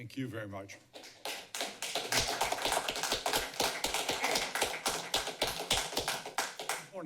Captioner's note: applause